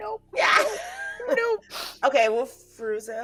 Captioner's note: person laughing